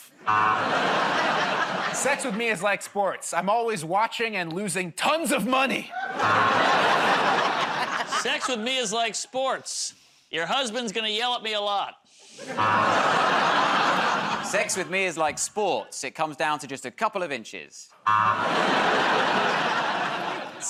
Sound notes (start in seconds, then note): 0.1 laughter, buzzer; 5.9 laughter, buzzer; 12.4 laughter, buzzer; 18.0 laughter, buzzer